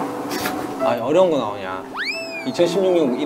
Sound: laughs

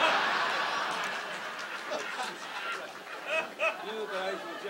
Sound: audience laughs

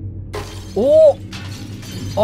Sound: glass shatters

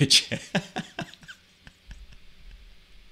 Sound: laughing

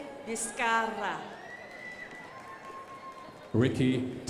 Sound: crowd applauding

